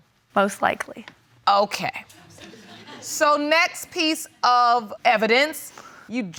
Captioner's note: audience laughs